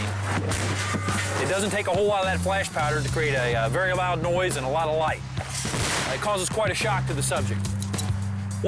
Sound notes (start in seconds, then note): 5.4 flashbang explosion